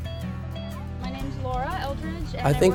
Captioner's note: chatter